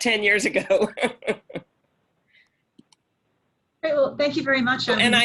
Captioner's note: laughs